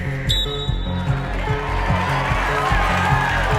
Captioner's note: whistle blows; gentle suspenseful music continues; audience cheers and applauds